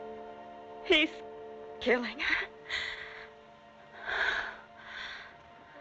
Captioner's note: gasps